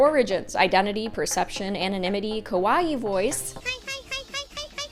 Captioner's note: cute vtuber voice stuff